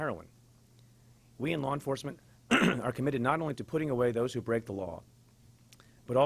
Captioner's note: clears throat